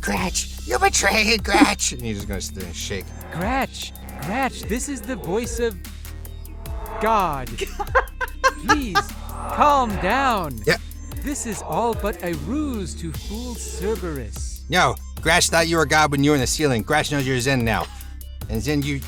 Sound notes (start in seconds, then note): 7.6 laughs